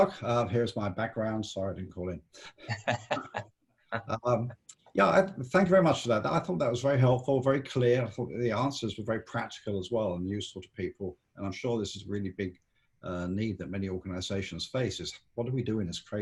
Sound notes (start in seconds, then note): 2.5 laughing